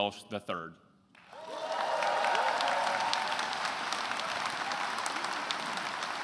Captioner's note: attendees cheering and applauding